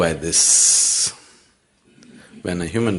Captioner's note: laughs